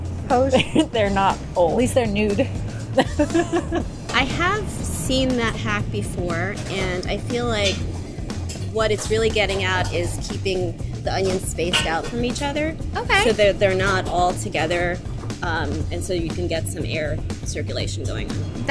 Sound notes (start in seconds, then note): 0.5 laughs; 2.8 laughing